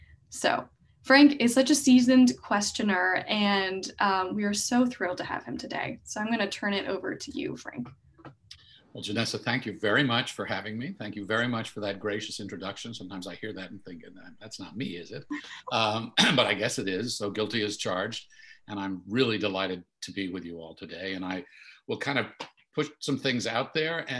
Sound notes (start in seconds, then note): 15.3 clears throat